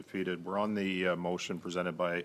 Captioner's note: speaking in French